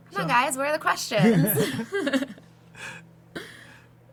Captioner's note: laughs